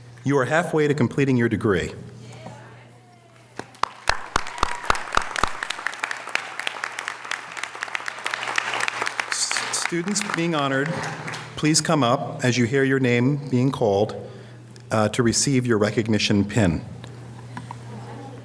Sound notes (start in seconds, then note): 3.6 audience cheering and applause